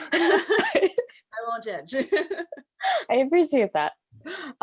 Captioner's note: laughs